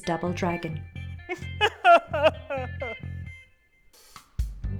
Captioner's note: sob